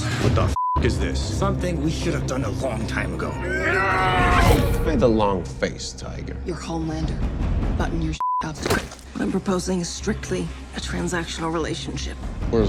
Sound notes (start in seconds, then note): 0.6 beep; 3.6 Crimson Countess yelling; 3.6 Soldier Boy grunting; 8.2 beep; 8.6 hand squeezing